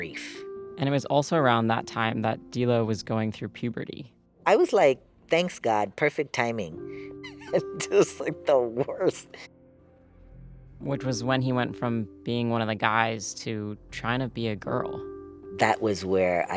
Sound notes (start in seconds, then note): 8.7 laughter